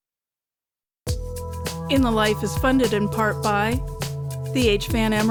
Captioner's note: announcer, over music